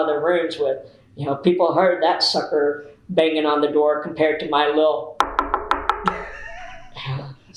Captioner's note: knocks on table